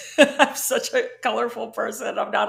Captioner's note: laughing